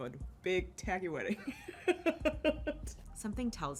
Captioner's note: laughs